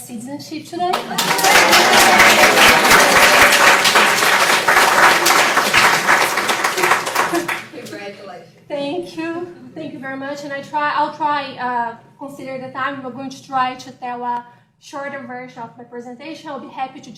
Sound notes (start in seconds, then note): 8.4 applause